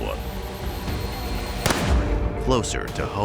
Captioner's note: tense dramatic music; gun shot